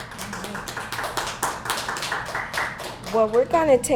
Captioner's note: applause